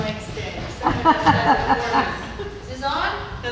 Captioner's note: laughter